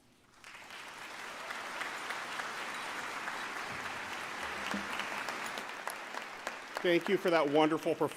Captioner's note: applause